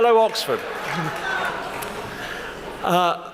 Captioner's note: shouts from the audience